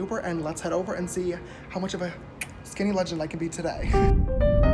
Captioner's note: mwah